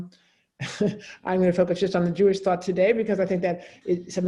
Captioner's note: chuckles